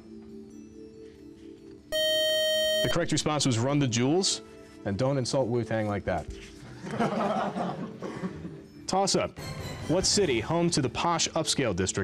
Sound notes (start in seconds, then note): 1.9 time's-out buzzer; 6.7 laughter